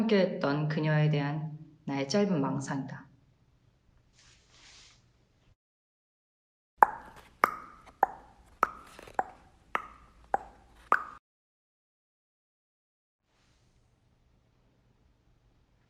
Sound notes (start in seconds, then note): 6.8 metronome Sound from her mouth